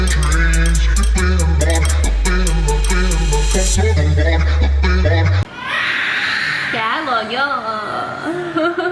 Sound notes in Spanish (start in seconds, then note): 5.5 gritos